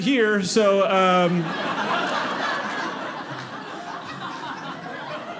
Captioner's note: audience laughing